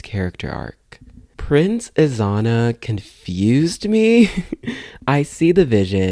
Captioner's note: laugh